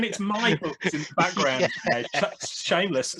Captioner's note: laughs